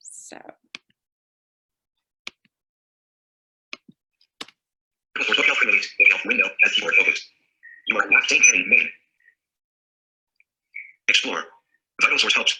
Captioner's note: synthesized speech